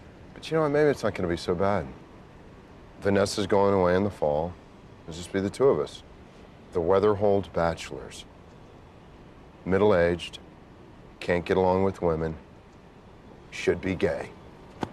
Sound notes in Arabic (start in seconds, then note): none